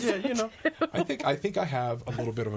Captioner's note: laughs